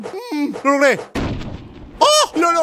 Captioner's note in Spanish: sonido de disparo